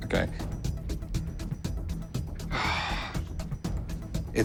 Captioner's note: sighs